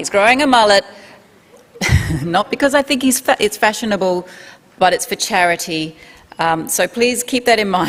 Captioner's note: laughter